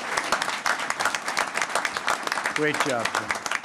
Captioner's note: applause